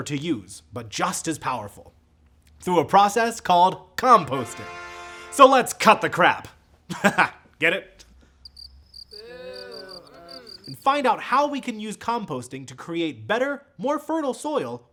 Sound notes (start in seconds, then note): 8.4 crickets; 9.1 laughs